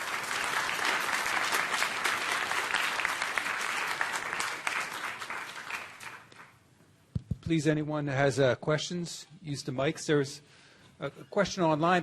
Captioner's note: applause